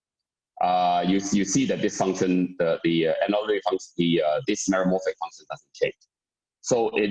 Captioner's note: murmur